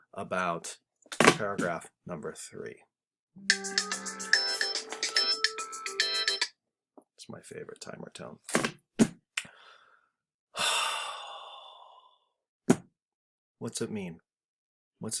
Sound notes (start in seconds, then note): 4.2 phone alarm ringing